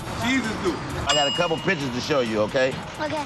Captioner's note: bell dings